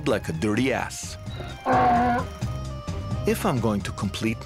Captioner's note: donkey braying